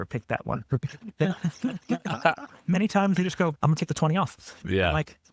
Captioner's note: laughing